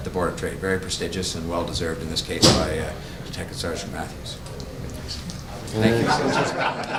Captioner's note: laughing, cordial greetings